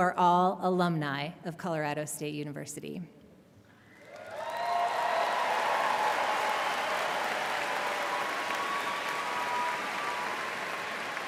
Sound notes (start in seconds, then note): 3.9 audience applauding and cheering